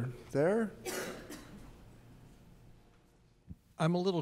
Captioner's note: coughs